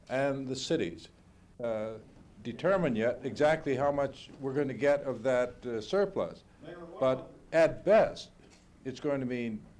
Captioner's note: reporter, interrupting; Bradley, loudly